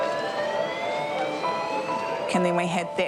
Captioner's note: alarm blares